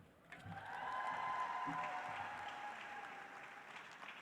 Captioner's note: audience applauds